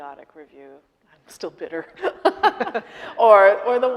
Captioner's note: laughing